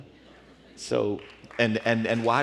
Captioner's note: applause